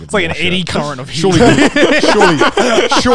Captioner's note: laughs